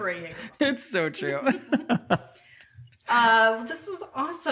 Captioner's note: laughs